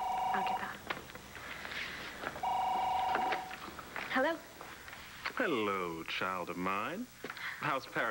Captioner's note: phone rings